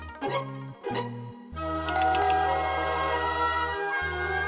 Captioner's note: amusing music; doorbell ringing